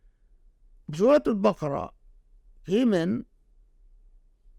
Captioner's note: speaking Arabic